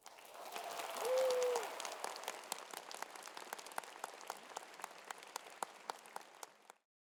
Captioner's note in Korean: 박수